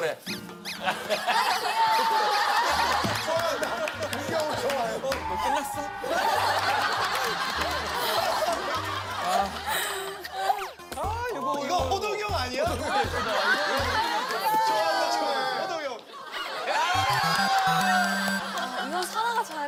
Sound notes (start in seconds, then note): 7.9 chuckles; 16.1 laughs